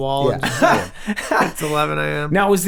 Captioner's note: Glenn chuckles